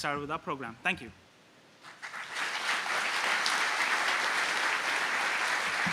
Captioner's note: applause